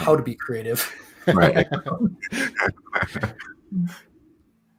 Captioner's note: laughter